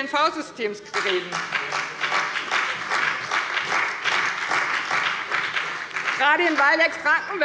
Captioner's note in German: Beifall bei der CDU und dem BÜNDNIS 90/DIE GRÜNEN